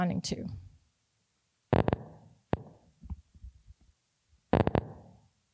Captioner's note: intermittent clicks